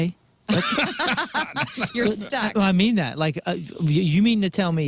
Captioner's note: laughing